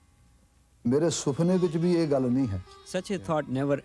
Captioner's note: non-english speech